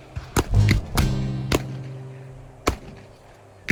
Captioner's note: guns fire